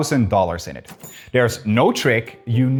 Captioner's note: cash register ka-chings